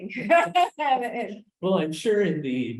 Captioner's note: laughs; mumbles